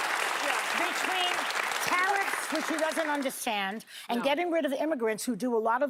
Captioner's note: applause